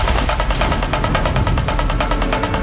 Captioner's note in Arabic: صوت هواء مندفع